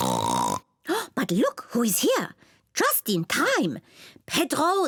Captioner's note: oinks; gasps